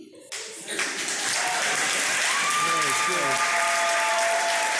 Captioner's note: cheers and applause